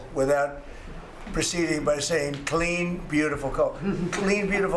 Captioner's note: laughter